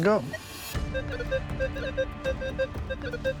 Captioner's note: metal detector beeping